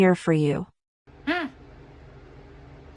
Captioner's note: scoffs